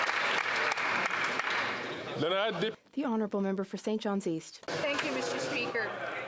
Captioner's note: some Applause